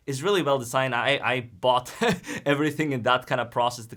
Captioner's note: laughs